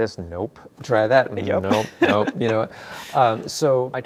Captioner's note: laughs